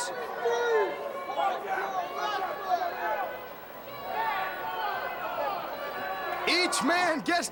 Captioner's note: crowd chatter